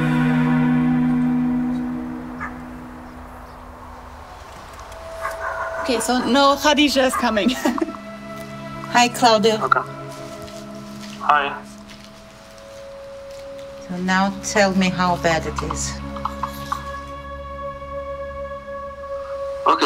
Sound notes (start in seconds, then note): 3.1 dog barking; 7.1 chuckles; 12.4 on phone